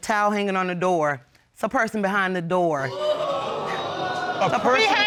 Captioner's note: audience exclaims